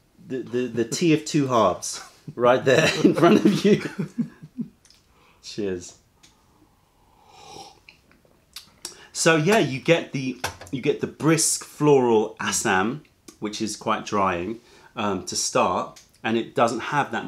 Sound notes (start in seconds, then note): 4.2 laughter; 7.2 sips tea